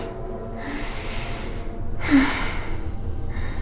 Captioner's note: moaning